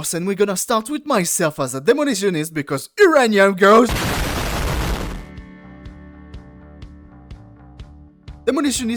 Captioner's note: booooooooom